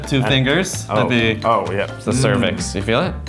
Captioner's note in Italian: mormora